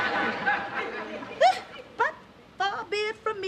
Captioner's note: scoffs